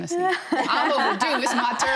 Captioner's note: women laughing